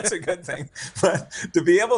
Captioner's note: chuckles